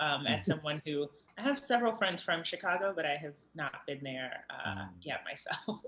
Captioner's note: laughs